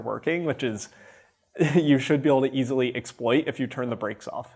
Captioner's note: chuckles